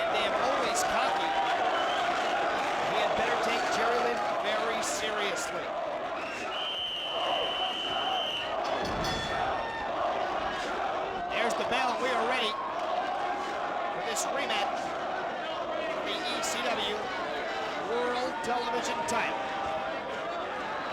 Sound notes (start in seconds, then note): 6.0 crowd chanting; 6.2 whistle blowing; 8.7 bell ringing